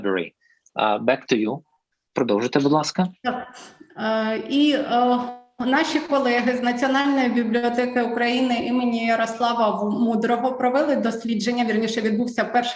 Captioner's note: foreign Language